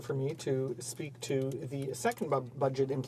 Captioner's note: speaking french